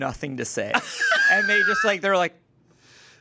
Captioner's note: everyone laughs